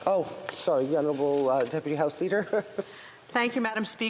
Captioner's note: speaking french